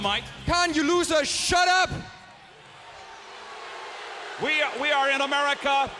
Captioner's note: crowd clamoring